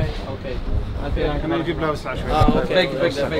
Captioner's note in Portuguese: Falas em árabe